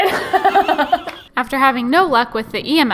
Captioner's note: laughs